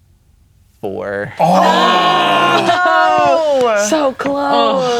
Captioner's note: players reacting